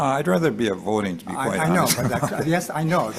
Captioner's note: chuckles